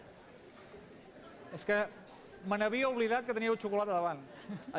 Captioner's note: non-english speech